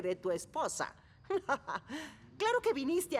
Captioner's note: laughing